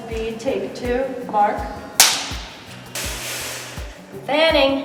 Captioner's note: film slate clapping